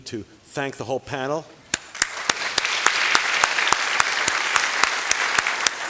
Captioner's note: applause